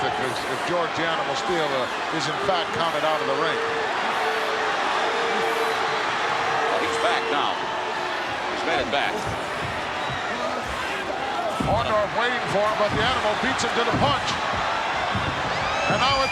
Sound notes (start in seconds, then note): 5.2 audience cheers